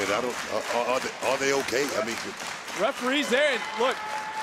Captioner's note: crowd claps